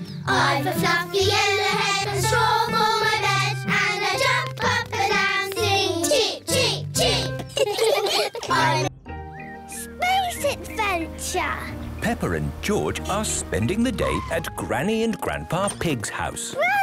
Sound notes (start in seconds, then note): 7.4 all laughing